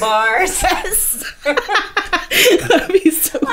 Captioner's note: laughing